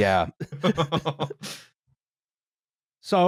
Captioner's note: laughter